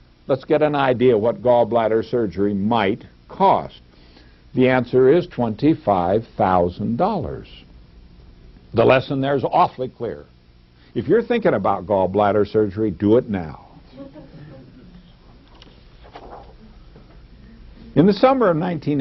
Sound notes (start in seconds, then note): 13.8 audience laughter